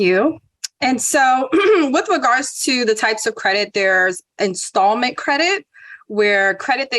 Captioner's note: cough